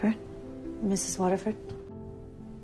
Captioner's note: voiceover